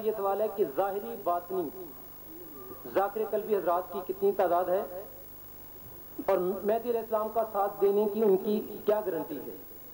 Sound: chanting

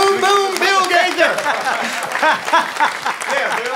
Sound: laughter

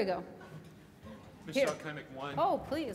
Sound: male Voice

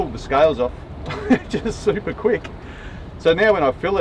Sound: laughs

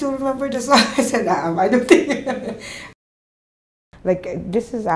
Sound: laughter

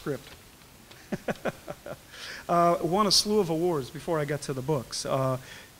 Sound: laughs

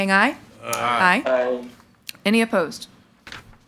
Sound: in Unison

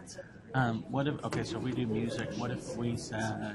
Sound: voiceover

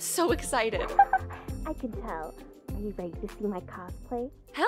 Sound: laughs

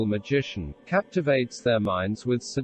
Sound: voice reads

